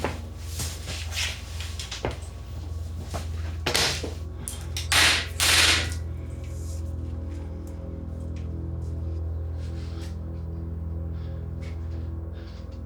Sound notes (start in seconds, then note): 5.0 whip smacking; 8.6 foreboding music